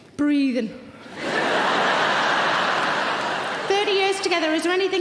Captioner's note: audience laughing